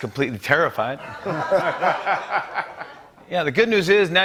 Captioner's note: laughter